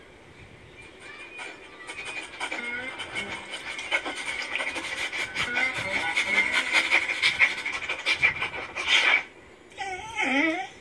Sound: sniffing; whimpers

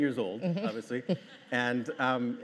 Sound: laughing

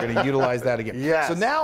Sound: laugh

